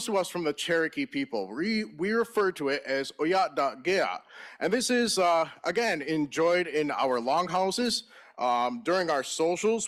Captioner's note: in Native Language